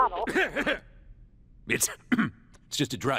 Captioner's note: coughing